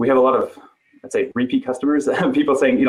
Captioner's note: giggling